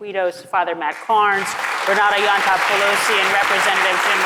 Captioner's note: audience applauds